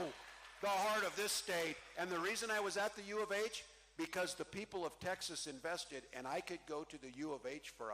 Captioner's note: cheering